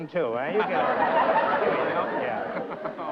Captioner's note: laughter